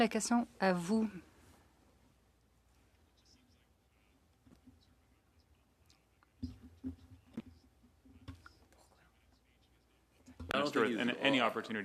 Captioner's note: speaking French